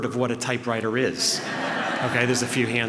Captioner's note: laughter